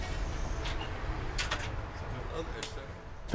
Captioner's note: door opening